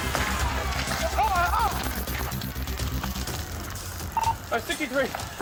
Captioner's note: yells